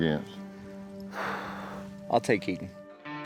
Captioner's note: exhales